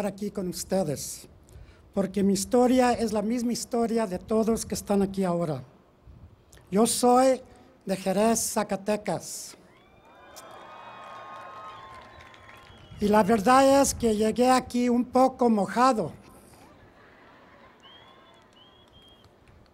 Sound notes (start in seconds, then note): 0.0 speaking in Foreign Language; 9.9 cheering and Applause; 13.5 speaking in Foreign Language